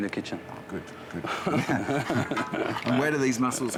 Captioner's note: both laugh